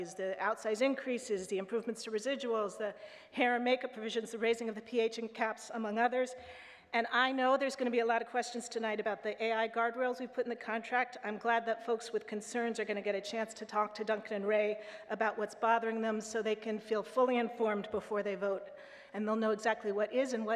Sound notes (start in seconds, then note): none